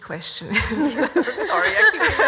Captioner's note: all laugh